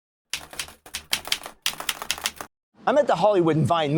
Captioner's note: keyboard keys clicking